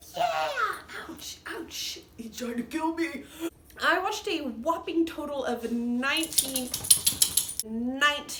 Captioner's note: interrupted by dog shaking collar